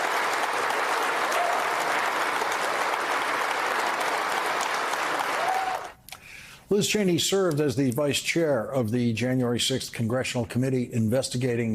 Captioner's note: cheers and applause